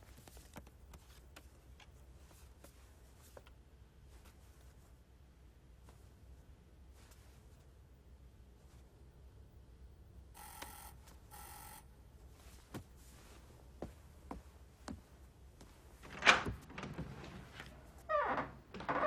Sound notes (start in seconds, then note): 10.4 doorbell buzzing; 16.0 door opening